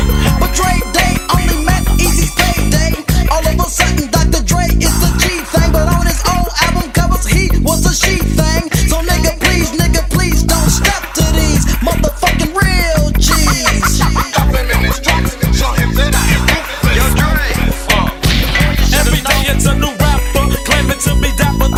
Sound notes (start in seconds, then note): 18.2 bang